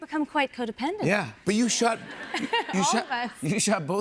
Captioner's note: audience laughs